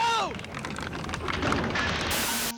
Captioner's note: crashing; whistling, music plays